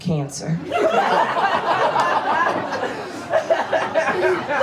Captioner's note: audience laughs